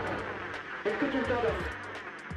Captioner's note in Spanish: Estática